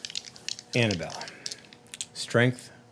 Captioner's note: dice rattling